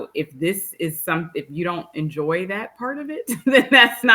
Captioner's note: laughs